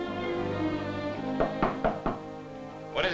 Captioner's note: knocking at door